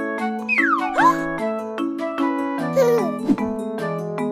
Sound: bright children's music; baby giggles; baby gasps

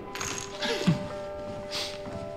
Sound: he chuckles

